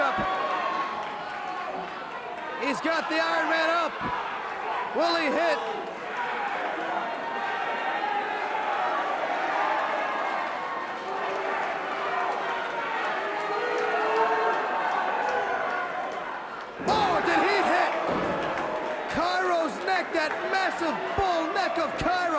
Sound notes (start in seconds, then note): 7.4 crowd chatter